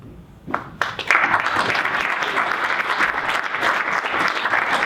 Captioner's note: audience applauding